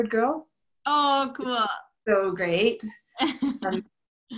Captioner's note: laughter